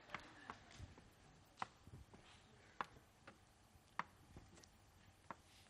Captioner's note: laughter